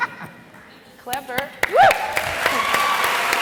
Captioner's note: laughs; claps; audience applauding